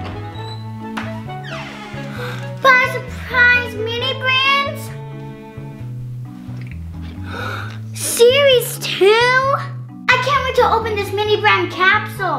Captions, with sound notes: (hinges squeak) - (gasps) Five surprise Mini Brands? (gasps) Series two? I can't wait to open this Mini Brand capsule.